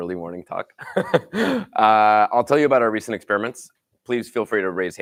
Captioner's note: laughs